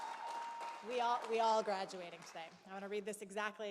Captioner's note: applause